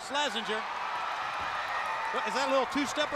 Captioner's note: crowd cheering